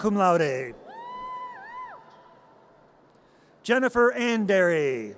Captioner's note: audience cheers